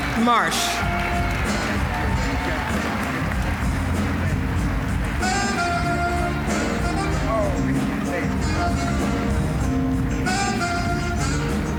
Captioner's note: applause; smooth jazz music